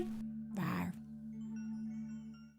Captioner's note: character roars